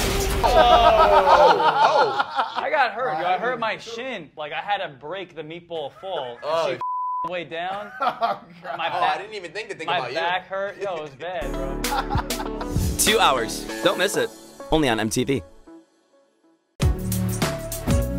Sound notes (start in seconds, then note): 0.4 laughing; 6.8 beeping